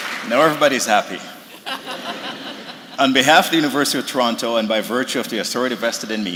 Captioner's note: laughter